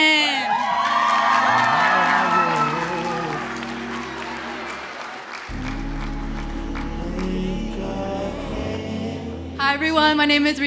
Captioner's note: applause